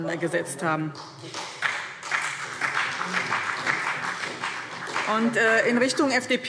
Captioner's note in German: Beifall BÜNDNIS 90/DIE GRÜNEN und CDU